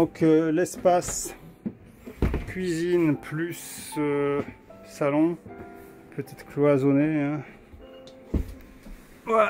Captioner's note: door